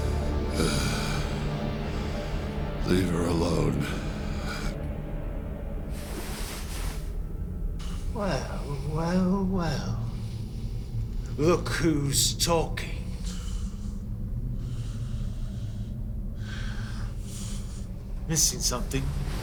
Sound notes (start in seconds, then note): 14.7 James exhales